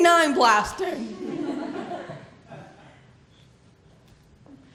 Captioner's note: laughter